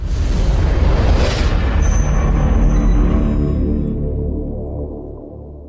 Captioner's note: dramatic whooshing